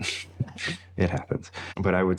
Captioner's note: laughs